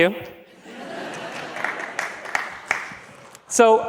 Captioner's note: laughs